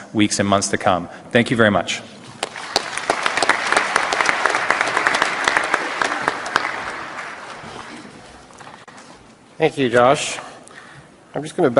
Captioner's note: applause